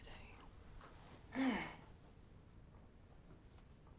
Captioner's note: groans